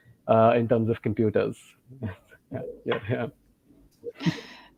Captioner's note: giggles